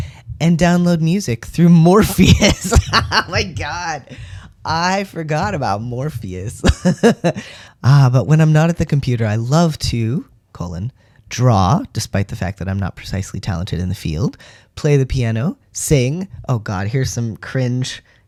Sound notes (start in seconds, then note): 2.2 laughter; 6.7 laugh